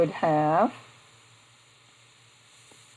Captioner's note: silence